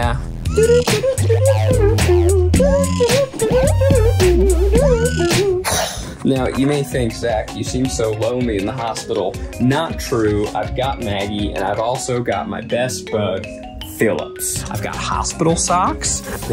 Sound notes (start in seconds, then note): 5.6 sighs